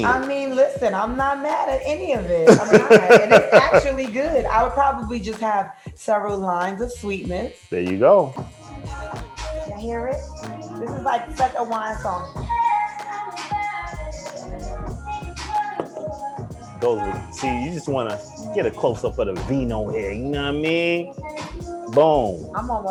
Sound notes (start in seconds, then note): 2.4 laugher